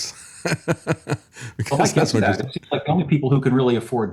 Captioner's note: laughs